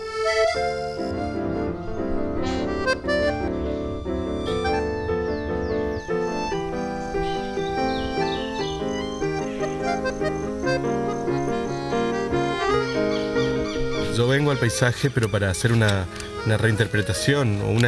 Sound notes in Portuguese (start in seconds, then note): 0.1 música de acordeão e piano; 6.6 canto dos pássaros